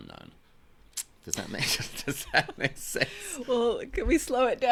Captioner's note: laughs